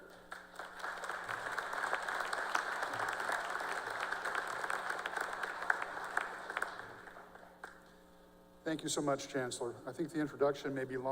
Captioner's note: applause